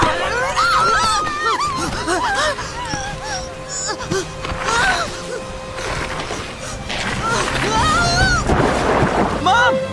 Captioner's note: gasping and panicking